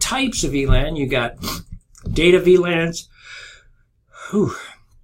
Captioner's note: yawns